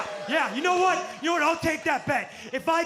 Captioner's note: crowd cheering